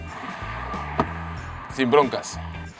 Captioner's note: door closes